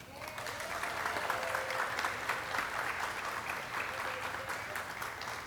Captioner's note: audience cheering and clapping